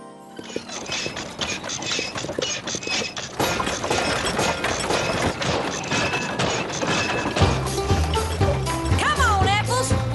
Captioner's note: squeaking and clanging